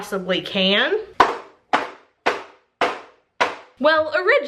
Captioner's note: thump